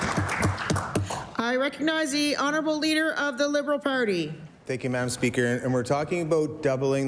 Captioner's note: applause